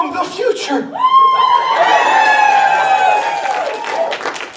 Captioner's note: audience cheers